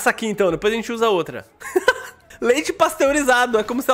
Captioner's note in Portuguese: risos